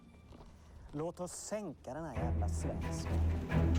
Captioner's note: speaking Danish